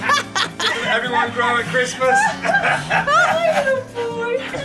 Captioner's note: laughing; laughs